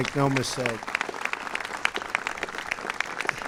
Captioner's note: applause